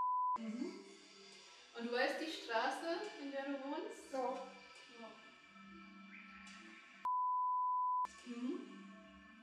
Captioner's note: beep